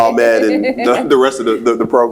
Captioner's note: laughs